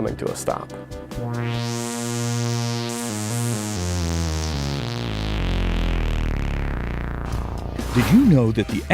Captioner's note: sound Effects